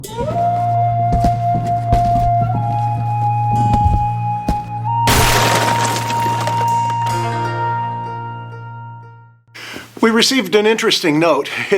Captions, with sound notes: (gentle music) (box bumping on ground) (wood shatters) - We received an interesting note.